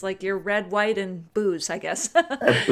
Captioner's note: laughs